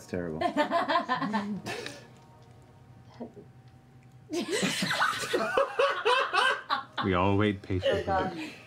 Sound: laughter

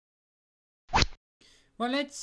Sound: rod sound

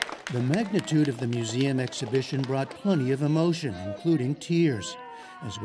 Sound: applause

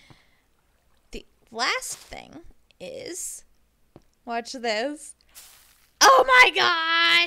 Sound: bone meal rustles

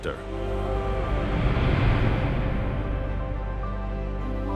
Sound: transition whooshing; gentle music continues

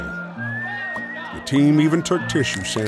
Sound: cheering in background

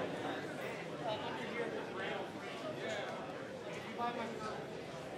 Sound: people murmuring

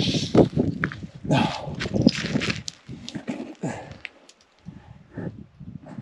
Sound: breathing heavily

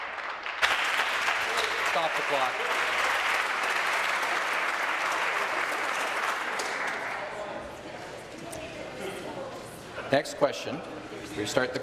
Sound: applause

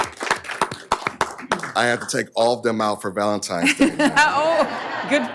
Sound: applause

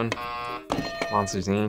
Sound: buzzer rings; bell rings

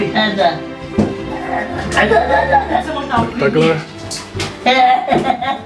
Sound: crying

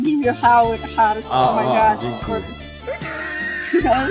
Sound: Polish

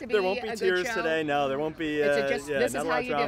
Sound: laughs

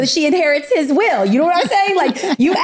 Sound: laughing

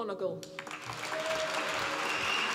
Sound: applause

